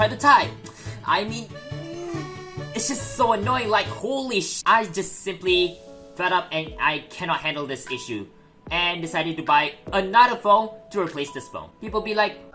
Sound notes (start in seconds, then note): 1.7 angy noise